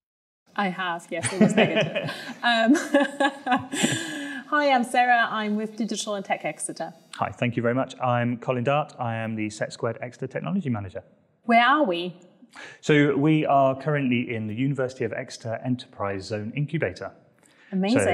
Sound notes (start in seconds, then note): 1.2 laughs